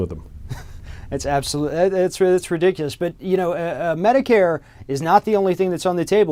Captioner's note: chuckling